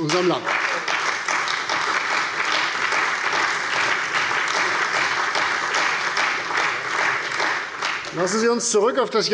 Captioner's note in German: Beifall bei der CDU und dem BÜNDNIS 90/DIE GRÜNEN